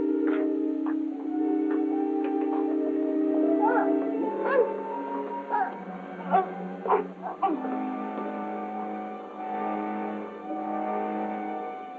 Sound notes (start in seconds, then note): 3.5 groaning